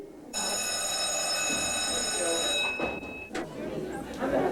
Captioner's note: bell rings